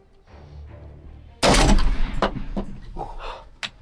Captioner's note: gunshot